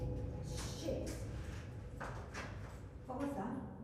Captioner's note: object clattering quietly